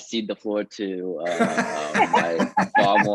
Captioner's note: panelists laughing